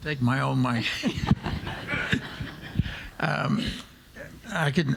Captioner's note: all laughing